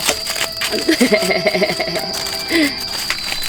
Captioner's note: crying